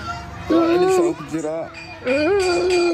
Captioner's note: menangis